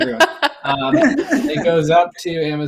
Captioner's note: laughter